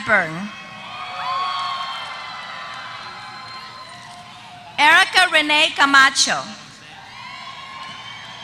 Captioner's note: applause